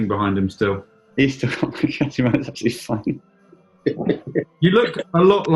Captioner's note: chuckling